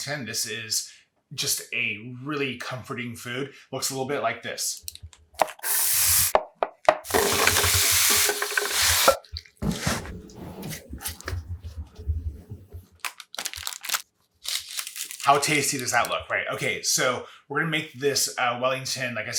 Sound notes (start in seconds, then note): 5.6 knife tapping; 7.0 pan sizzling